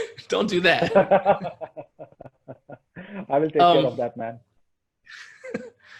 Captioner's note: laughs